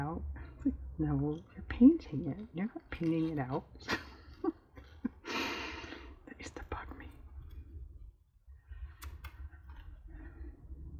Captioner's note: laughs